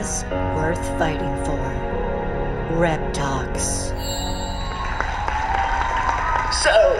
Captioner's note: applause